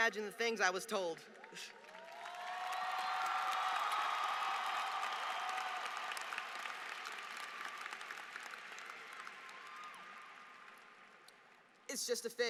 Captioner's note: applause